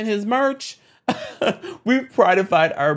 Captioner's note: host giggles